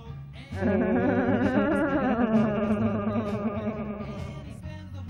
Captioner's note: Moist Stealers laugh criminally